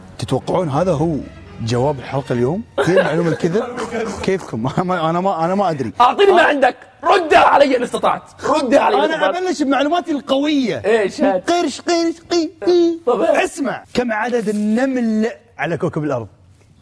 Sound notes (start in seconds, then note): 11.8 sarcastic sound